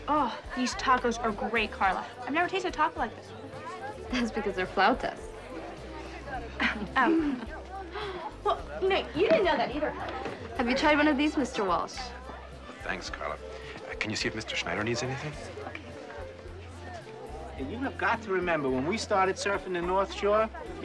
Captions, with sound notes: - Oh, these tacos are great, Karla. I've never tasted a taco like this. - That's because they're flautas. - Oh. (scoffing) (inhaling) Well, n-, you didn't know that either, Kelly. - Have you tried one of these, Mr. Walsh? - Thanks, Karla. Can you see if Mr. Schneider needs anything? - Okay. - And you have got to remember, when we started surfin' the North Shore,